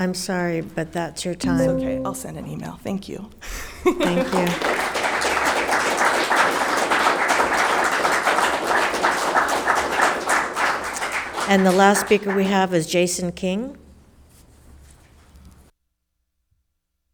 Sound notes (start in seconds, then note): 4.0 spectators applauding